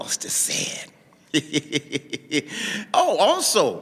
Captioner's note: laughing